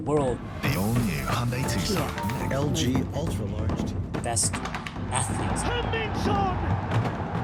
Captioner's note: soundbite of archived recording